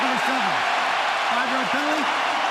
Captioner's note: cheering